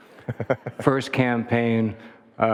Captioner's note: Barack laughing